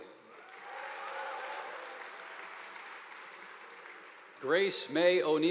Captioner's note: audience applauding